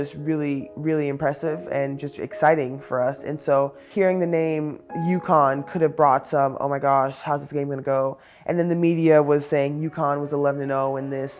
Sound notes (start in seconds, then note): none